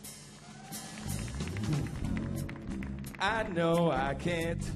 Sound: audience cheering; audience applauding

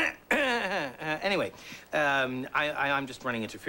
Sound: clears throat

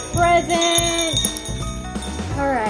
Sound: bells jingling

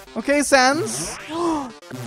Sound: gasps

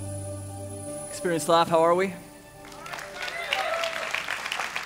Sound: applause

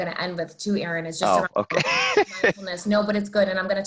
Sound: laughs

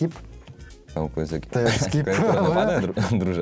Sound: laughter

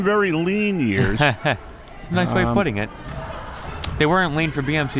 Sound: laughs

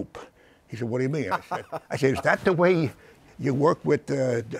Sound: laughs

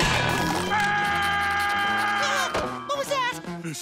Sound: screaming

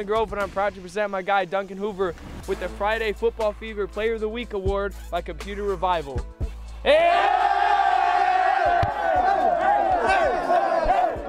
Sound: team cheers for duncan hoover

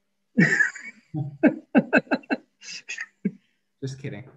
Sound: councilor laughing

